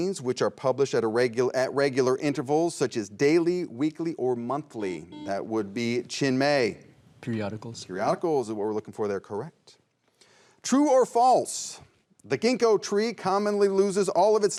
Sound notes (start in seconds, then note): 4.8 buzzer rings